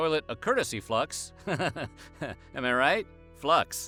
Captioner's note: chuckles